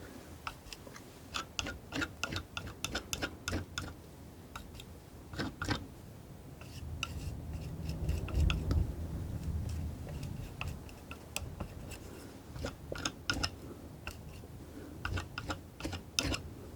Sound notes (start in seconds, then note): 0.1 tapping